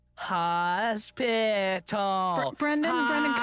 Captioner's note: sounds out word